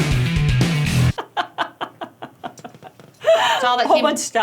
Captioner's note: laughing